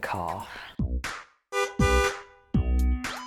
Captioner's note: car horn honks